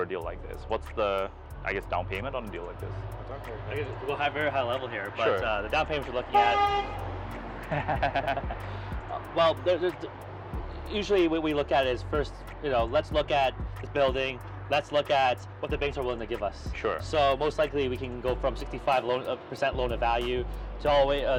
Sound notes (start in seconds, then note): 6.3 car honks; 7.6 all chuckle